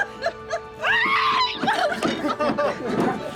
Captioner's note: laughter; screaming; laughter